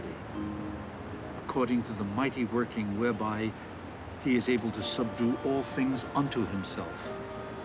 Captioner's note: none